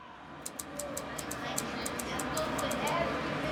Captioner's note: typewriter clicks